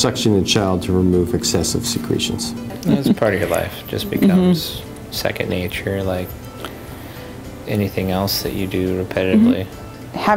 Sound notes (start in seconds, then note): 2.8 woman laughs